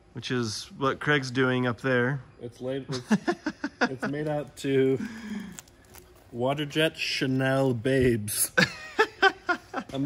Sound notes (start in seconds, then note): 2.9 laughs; 8.5 laughs